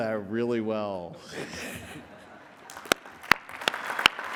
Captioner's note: applause